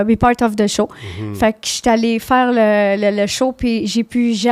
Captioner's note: in french